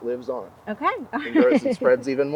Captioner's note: chuckling